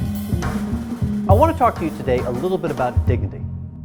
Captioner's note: voiceover